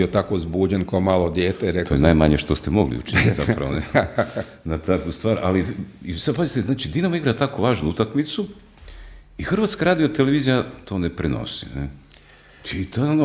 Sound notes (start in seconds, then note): 3.0 laughter; 6.0 coughs